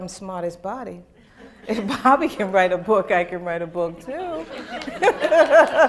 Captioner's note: laughter